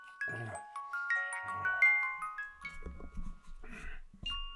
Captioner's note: Jacob grunting